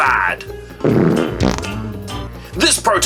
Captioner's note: farting